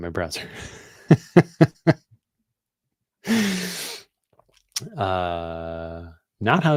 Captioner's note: laughter